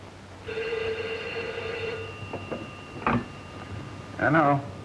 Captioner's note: phone ringing